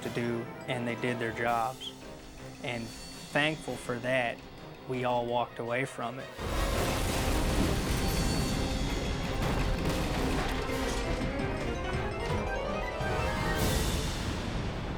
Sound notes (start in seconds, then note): 6.4 metal crashing; 6.4 explosions popping; 9.4 explosion pounds; 9.4 intense dramatic music